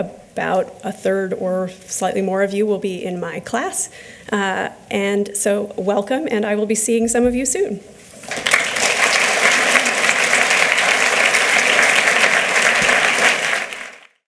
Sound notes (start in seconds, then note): 8.1 applause